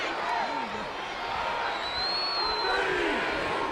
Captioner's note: audience cheering